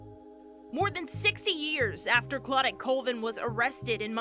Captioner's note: voiceover